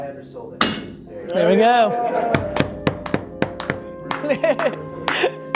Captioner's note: group cheer and applause